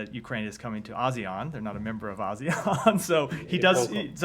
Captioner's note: laughter